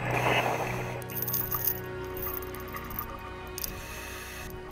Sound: chains rattle

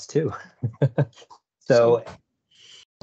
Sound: chuckles

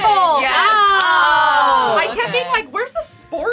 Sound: all yelling

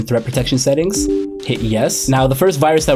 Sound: computer chimes

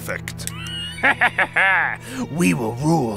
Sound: laughs

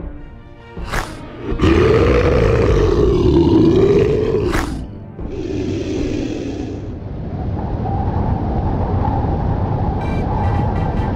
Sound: gator growls and wind

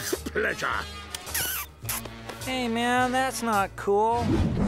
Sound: chuckles; kissing

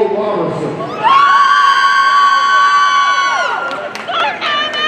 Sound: audience cheering

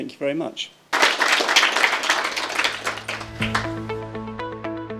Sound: applause

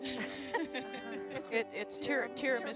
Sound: laughing

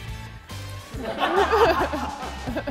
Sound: laughing

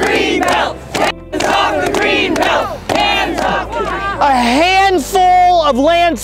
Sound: chanting

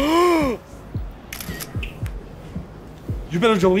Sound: Gerard gasping; phone clicking

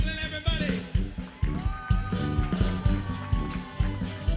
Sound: crowd cheering

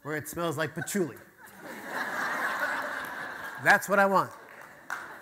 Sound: audience laughter

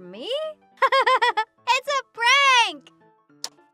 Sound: giggles

